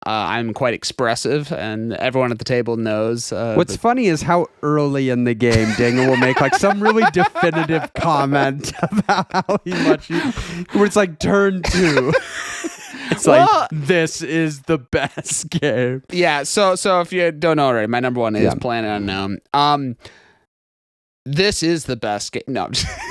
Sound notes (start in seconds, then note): 12.4 laughing